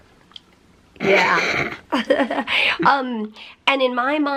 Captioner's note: laughter